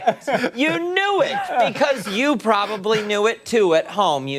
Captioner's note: laughter